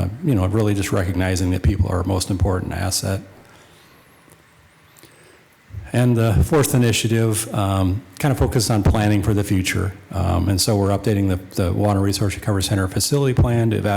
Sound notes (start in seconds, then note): none